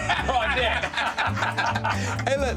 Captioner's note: laughter